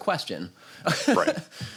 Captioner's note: laughs